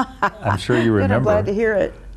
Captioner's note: laughing